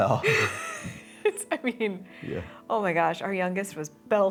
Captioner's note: laughing